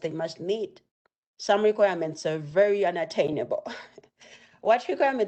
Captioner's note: chuckles